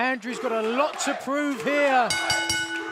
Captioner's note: bell ringing